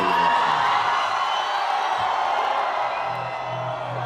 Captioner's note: crowd cheers